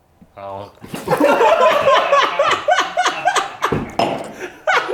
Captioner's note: laughter